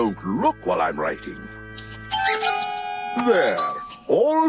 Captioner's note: pen continues squeaking